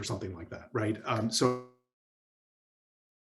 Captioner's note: audio cuts